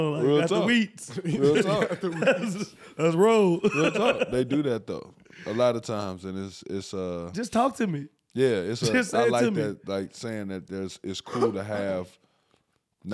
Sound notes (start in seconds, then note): 3.6 laughing